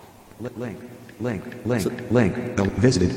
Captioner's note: electronic Voice